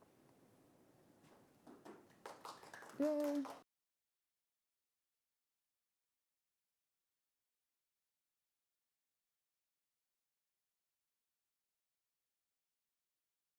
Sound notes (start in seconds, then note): 1.7 audience applauds